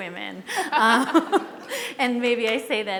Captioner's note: laughing